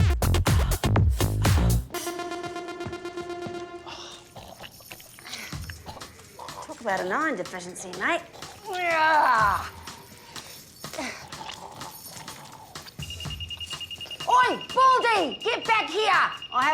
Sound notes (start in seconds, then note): 3.8 sighs; 5.9 coughs, gurgles; 7.6 groans; 10.9 man gurgles; 12.8 detector beeps rapidly